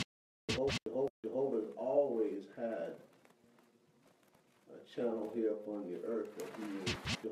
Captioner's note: record scratch; record scratch